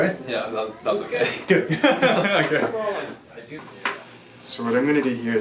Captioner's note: laughing